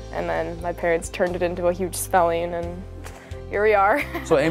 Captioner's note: laughing